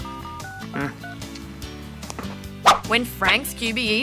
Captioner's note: grunts